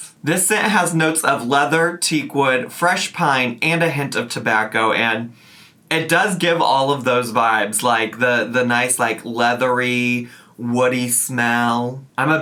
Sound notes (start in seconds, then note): 5.3 sniffs